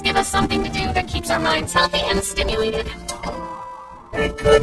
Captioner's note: doorbell rings